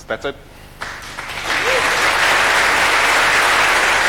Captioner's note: applause